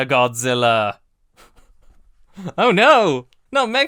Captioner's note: light laughter; laughs